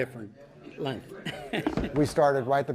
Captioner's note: laughs